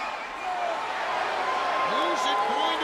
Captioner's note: crowd chatter